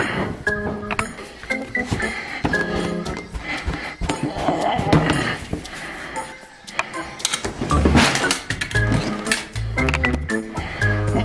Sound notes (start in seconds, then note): 1.0 heavy breathing; 4.1 grunts; 7.2 drawers open